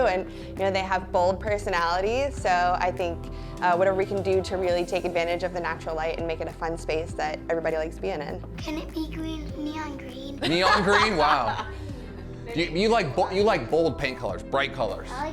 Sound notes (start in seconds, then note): 10.4 laughing